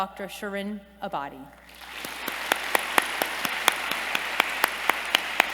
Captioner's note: applause